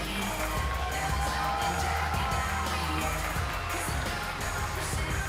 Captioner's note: cheers & applause